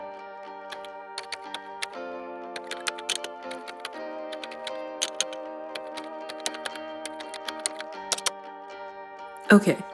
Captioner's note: typing